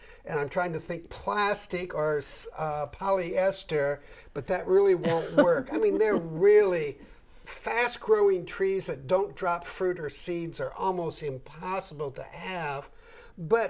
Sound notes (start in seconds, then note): 5.0 laughing